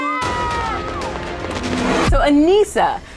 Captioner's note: crowd applauses